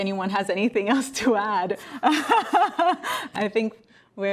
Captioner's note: laughs